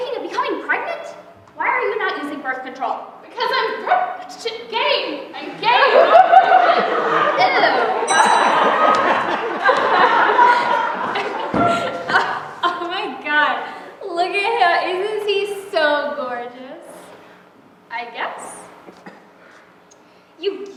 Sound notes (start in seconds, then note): 8.0 bell rings; 12.9 laughing